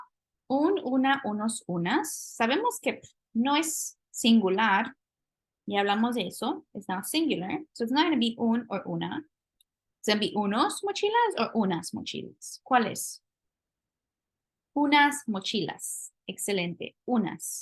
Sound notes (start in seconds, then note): 0.0 speaking spanish; 8.4 spanish; 10.7 spanish; 12.6 speaking spanish